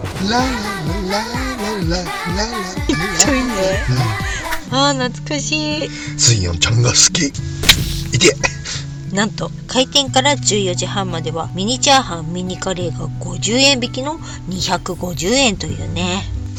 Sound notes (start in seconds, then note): 7.5 laughs